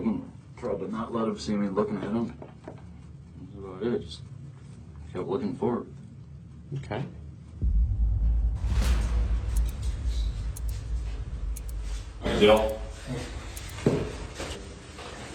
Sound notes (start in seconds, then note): 8.6 clock ticking